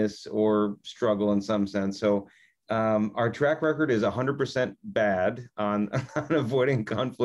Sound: laughs

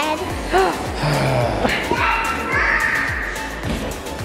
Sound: sighs

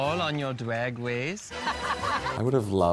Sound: laughs

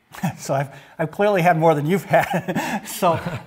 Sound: laughs

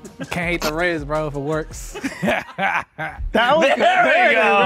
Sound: laughs

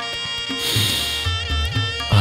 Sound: sniffs

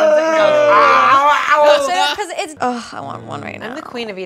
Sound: eating crunches

